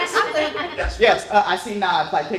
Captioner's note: laughter